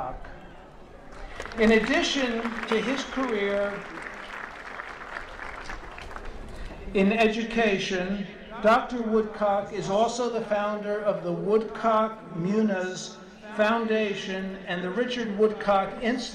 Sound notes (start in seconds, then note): 3.7 applause